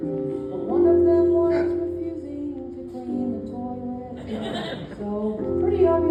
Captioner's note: ugh